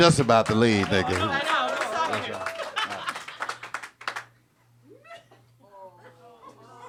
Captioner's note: audience clapping